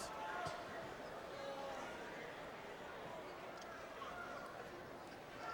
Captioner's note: crowd chattering